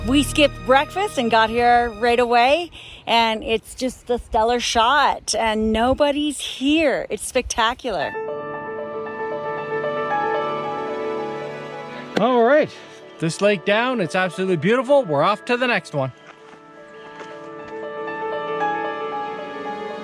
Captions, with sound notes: We skipped breakfast and got here right away, and it's just the stellar shot, and nobody's here. It's spectacular. (gentle music) - All right. (hands clap) This lake down. It's absolutely beautiful. We're off to the next one.